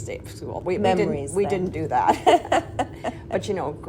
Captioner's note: laughing